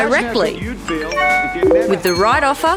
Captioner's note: beeps and pings